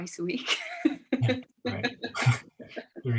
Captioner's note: laughs